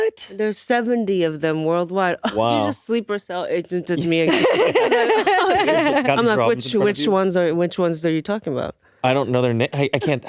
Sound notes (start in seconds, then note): 4.2 laughing